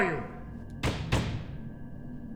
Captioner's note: pounding